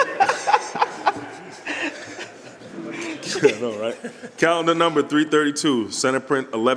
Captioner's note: laughter